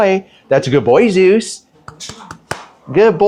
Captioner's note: applauds